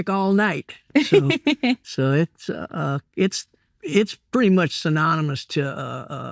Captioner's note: laughing